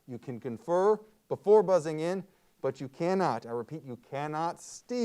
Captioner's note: none